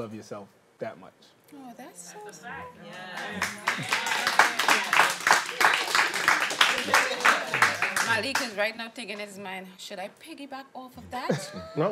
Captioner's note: applause